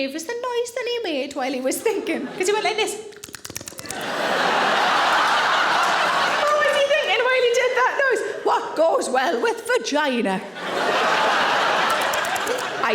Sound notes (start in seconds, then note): 3.1 tongue patting; 3.8 audience laughing; 10.4 audience laughing